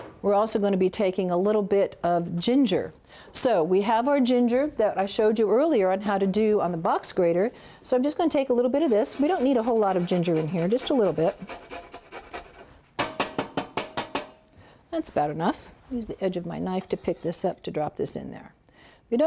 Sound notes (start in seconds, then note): 11.9 scraping; 13.0 tapping